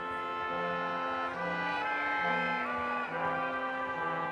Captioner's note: none